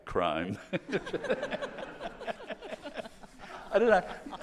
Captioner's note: all laughing